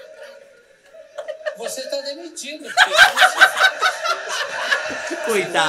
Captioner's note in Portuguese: gargalhadas